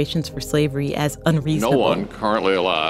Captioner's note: soundbite of archived recording